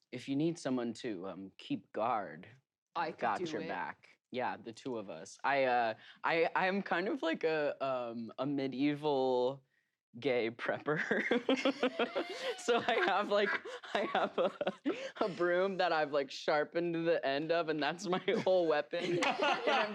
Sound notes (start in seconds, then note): 10.9 laugh